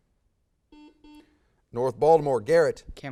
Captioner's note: buzz